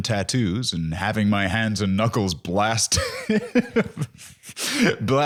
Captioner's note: laughs